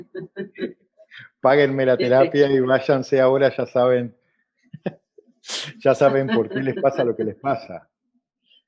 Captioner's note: laughs